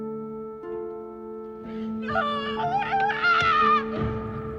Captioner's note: screaming